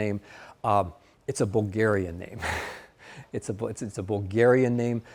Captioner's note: laughs